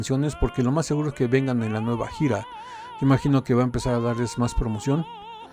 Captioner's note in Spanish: lloros